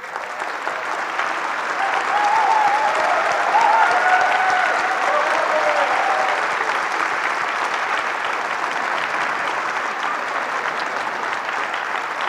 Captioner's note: applause